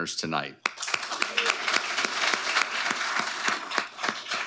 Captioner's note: audience applauding